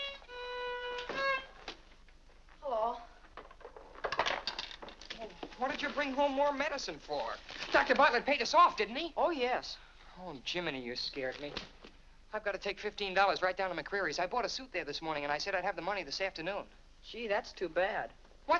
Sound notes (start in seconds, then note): 0.9 door closes; 3.9 violin clatters down